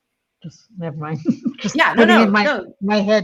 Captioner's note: chuckles